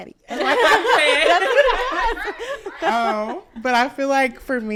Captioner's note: all laughing